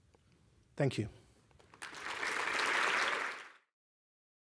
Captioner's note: applause